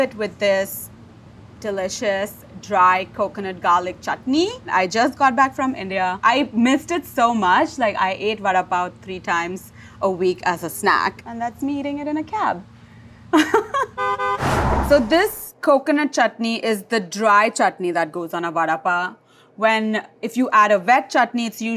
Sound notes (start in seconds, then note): 13.6 laughs; 13.9 car horn honks